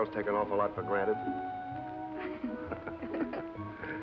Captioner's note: laughter